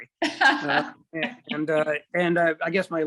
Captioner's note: laughs